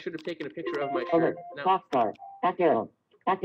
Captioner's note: Siri talking